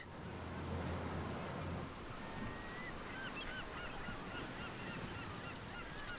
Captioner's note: waves crashing; birds squawking